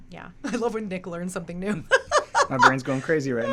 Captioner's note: laughs